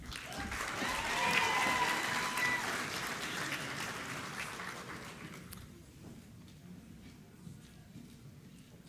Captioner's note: applause